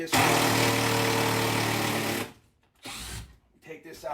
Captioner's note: drill whirring